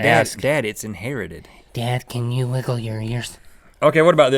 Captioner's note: silly voice